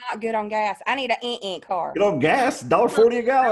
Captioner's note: imitating beeping